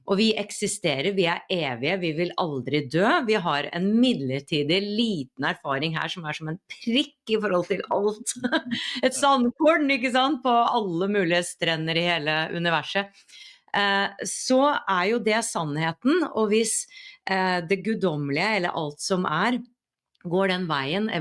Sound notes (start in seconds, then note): 8.6 laughs